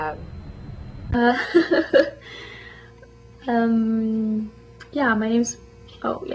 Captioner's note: laughs